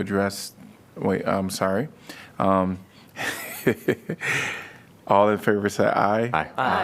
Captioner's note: laughter